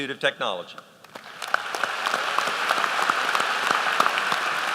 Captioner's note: applause